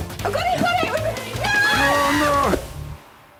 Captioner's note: screams